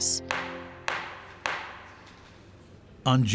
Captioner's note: gavel pounding